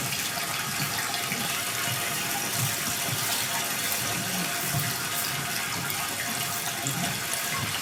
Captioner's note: water trickling continues